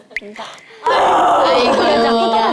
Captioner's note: roar